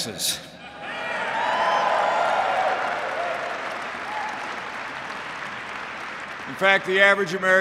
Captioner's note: applause